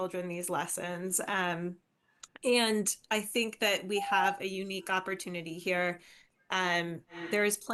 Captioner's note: beep